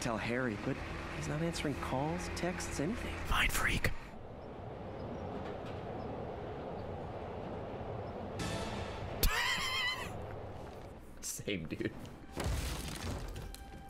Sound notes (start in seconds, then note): 5.7 laughs